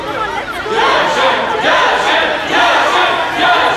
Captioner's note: Crowd cheering